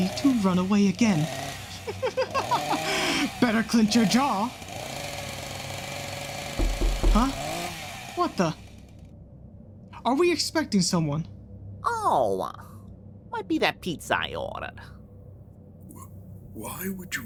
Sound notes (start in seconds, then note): 4.4 sfx: chainsaw gets closer; 6.6 sfx: door knocking